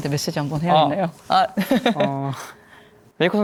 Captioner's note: laughs